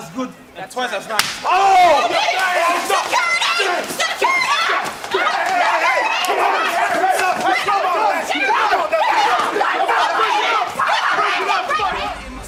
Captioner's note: yelling